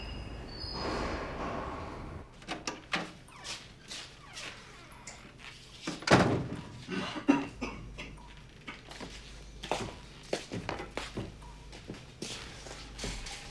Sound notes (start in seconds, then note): 2.0 door opening; 6.9 Leo coughing